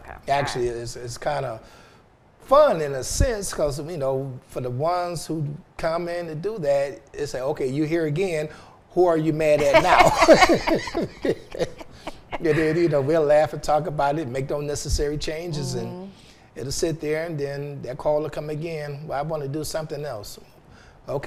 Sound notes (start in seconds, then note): 9.6 laughing